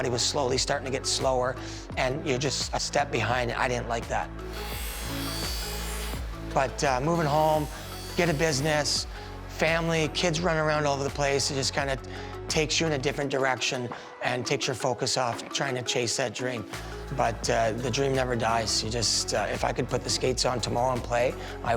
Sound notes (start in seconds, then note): 4.4 sharpener buzzing